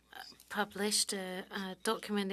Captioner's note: speaking French